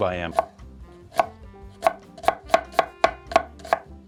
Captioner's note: knife chopping